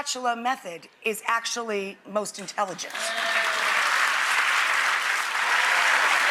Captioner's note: audience applauds